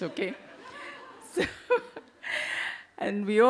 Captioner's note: audience laugh